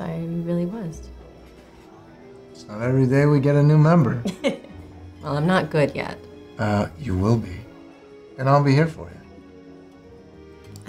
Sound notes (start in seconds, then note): 4.2 laughs